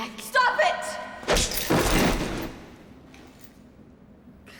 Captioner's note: loud slap